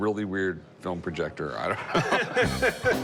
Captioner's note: laughter